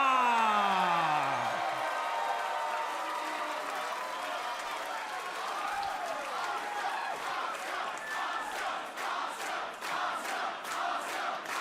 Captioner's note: crowd cheering